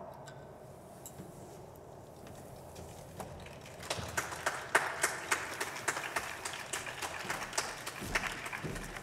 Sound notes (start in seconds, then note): 3.4 applause